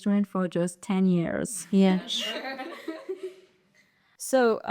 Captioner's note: general laughter